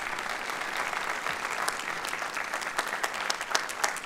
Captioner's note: applause